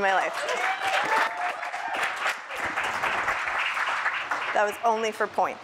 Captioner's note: appaluse